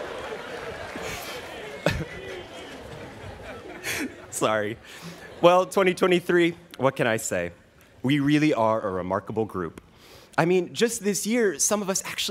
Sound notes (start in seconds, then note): 1.8 laughing